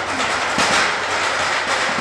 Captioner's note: clapping noise